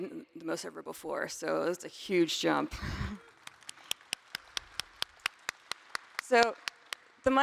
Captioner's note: applause